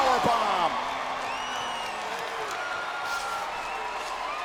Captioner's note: audience cheers